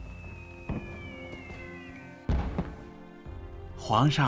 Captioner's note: fireworks